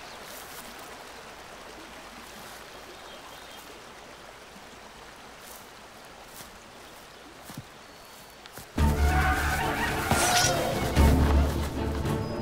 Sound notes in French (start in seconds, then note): 8.8 cris de guerre